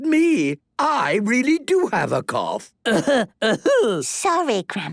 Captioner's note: coughing